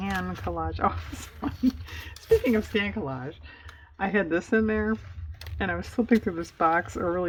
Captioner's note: laughs